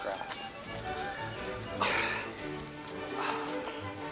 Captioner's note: sighs